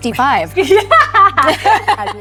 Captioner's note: both laughing